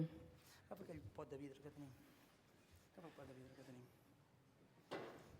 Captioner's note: non-english speech